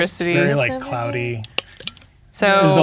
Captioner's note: speaking quietly